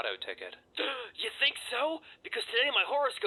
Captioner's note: gasp